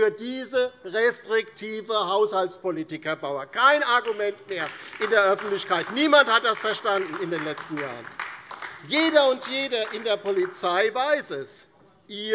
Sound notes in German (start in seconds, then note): 8.3 Beifall DIE LINKE